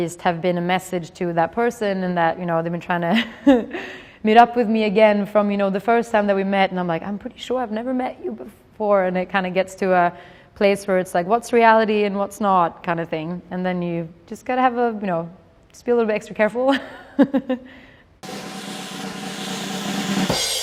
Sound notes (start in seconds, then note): 17.7 laughs; 18.2 drumroll